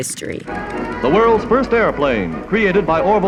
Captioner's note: soundbite of archived recording